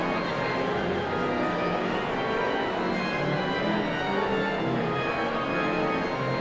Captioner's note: audience chatter continues; sound of organ tuning